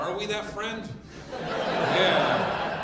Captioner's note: audience laughing